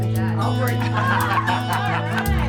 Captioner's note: group laughs